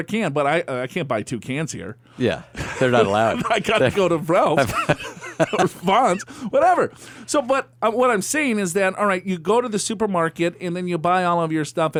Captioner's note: laughs